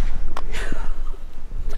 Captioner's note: laughing